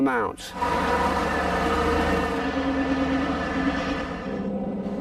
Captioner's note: engine roaring